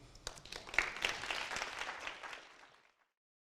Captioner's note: audience applauding